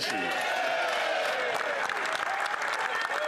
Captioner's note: applause